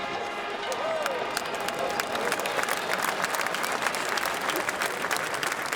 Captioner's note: all applauding and cheering